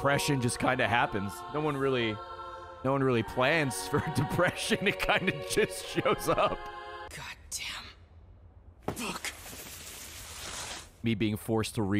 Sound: laughs

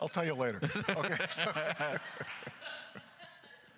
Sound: laughs; crowd chuckles

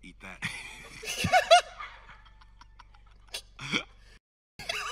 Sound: everyone laughing

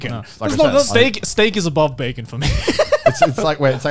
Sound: laughs

